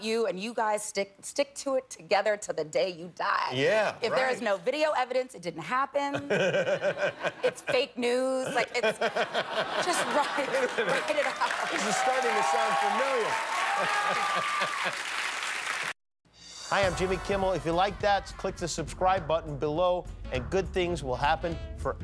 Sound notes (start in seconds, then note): 6.1 laughter; 10.0 cheers and applause